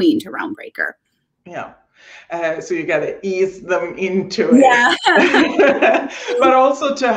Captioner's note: laughing